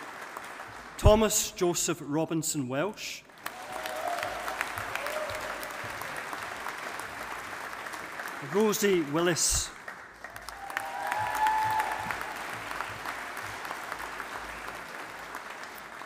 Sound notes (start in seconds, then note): 3.6 audience applauding; 10.8 audience applauding